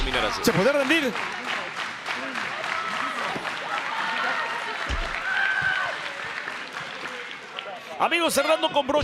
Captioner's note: applause